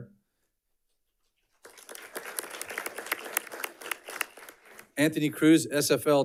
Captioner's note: audience clapping